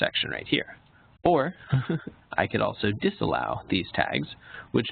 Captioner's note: chuckles